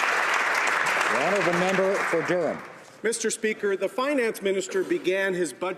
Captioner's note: applause